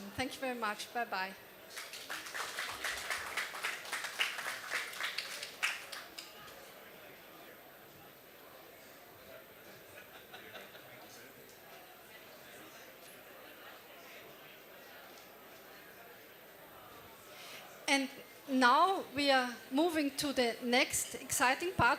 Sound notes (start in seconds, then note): 6.8 applause